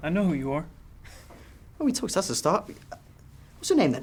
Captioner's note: chuckles